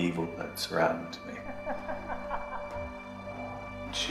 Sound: evil laughing

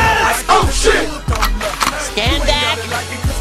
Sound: gun cocking

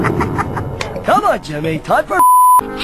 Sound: beep

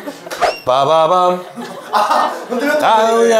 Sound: bam bam!

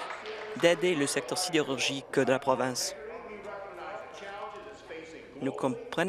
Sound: applause

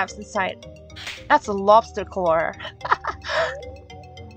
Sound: laugh

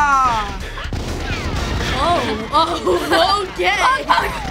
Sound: gunfire

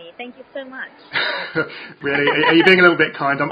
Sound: chuckles

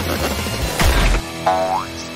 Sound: bonk!; boing!

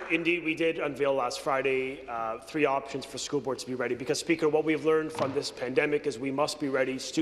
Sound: some Applause

